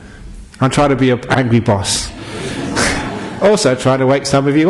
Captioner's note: laughter